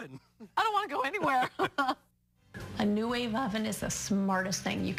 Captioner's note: both laugh